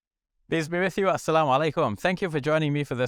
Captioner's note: speaking in Arabic